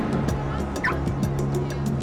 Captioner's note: car alarm chirping